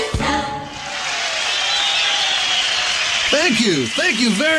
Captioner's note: applause